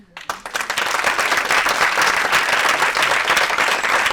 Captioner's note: audience applauding